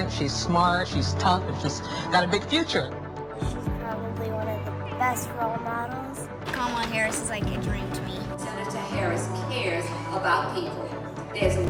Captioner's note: speaking foreign language